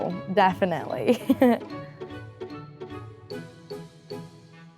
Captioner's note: laughing